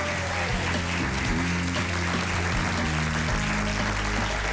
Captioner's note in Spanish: aplausos